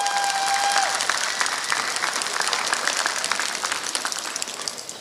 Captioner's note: applause